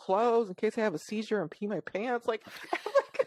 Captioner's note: laughs